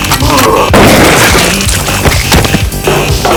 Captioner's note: gun fires; dramatic dance music